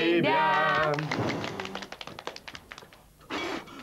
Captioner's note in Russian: хлопают